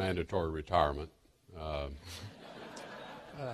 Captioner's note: laughter